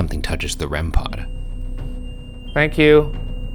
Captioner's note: REM pod screeching